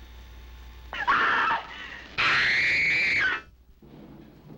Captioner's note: screaming